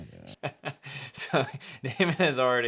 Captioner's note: laughing